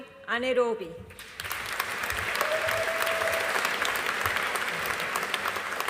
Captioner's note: audience applauding